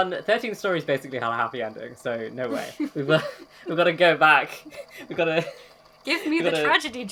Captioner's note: laughs